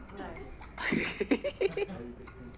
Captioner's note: laughs